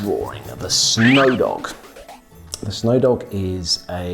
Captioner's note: cartoon flipping